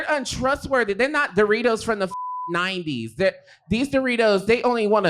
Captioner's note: beep